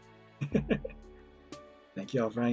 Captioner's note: chuckles